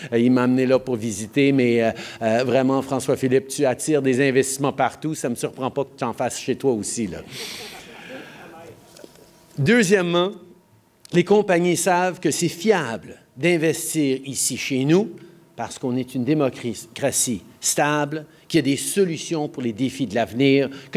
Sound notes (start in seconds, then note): 7.3 laughter